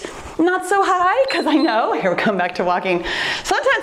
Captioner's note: timer beeps